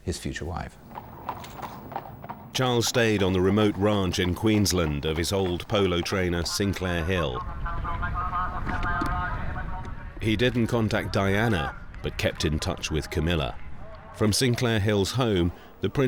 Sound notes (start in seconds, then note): 1.2 horses clip-clopping; 7.5 commentator speaking on loudspeaker